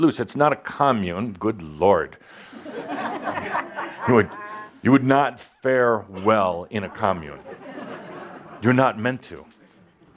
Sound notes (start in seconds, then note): 2.5 laughter